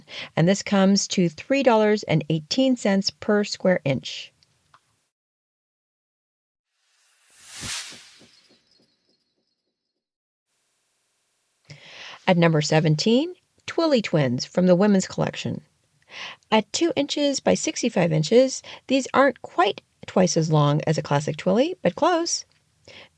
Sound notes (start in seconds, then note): 6.8 sound effect